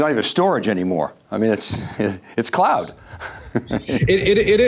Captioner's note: chuckling